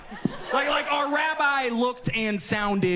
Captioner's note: audience laughs